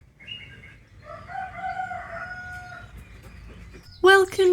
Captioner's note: cockerel crowing